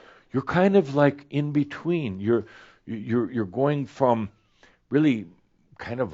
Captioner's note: none